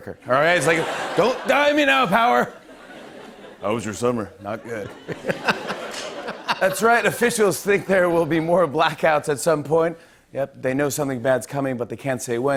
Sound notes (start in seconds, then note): 4.6 laughs